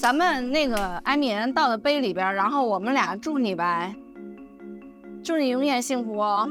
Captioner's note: speaking foreign language